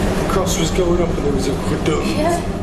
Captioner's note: imitating thud